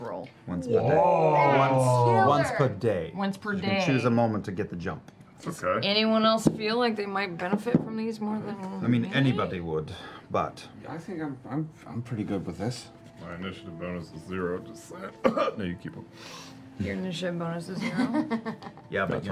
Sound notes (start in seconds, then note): 15.2 exaggerated cough